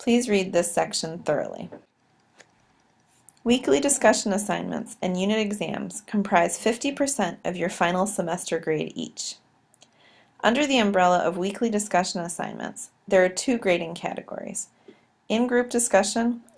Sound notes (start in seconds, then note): 8.5 click